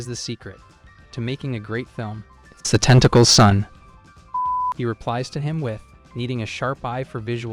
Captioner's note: beep